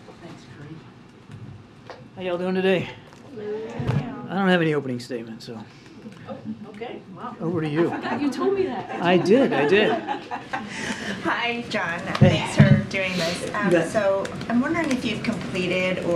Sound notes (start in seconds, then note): 7.6 laughter